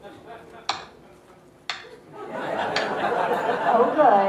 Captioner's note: slow clap